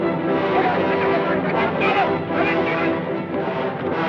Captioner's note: distant yelling